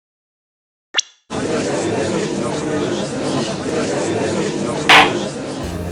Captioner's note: gallery chattering; gavel slams!